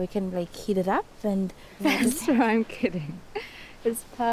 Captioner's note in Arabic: يضحك